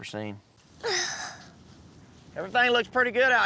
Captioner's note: grunts